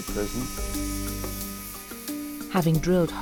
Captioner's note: drill buzzing